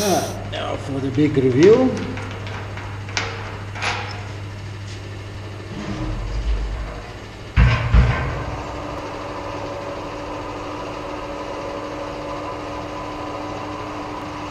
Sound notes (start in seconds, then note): 3.7 crane and pump noises